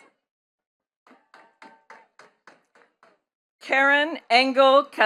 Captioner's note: attendees clapping